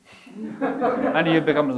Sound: audience laughing

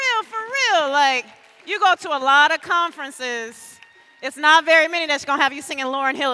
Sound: cheers and applause

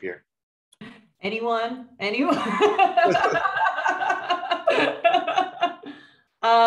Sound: laughs; laughing

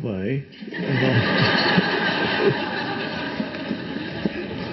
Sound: audience laughing

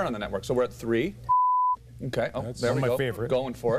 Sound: beep sound

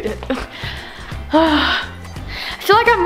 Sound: sighs

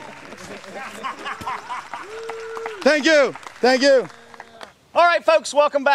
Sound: laughter

